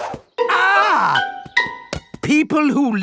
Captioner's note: screams